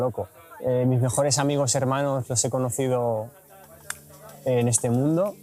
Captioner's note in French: en espagnol